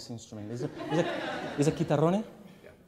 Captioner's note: laughs